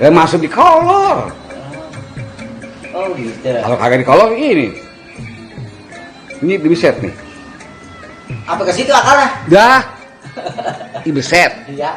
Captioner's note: laugh